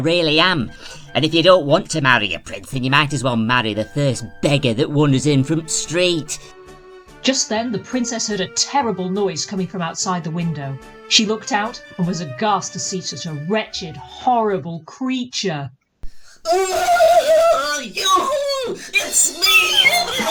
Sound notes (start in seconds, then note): 16.3 feral screeching